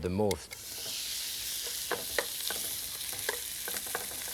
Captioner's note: pan sizzling